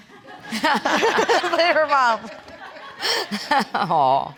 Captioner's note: laughing